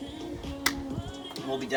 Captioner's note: bottle clicks shut